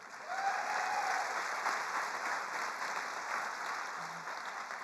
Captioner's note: attendees applauding